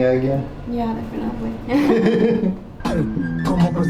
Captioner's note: both chuckling; upbeat music